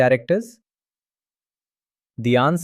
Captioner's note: pause